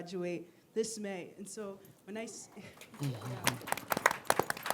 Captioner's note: audience applause